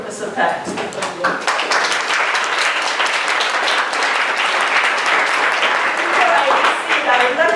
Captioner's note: applause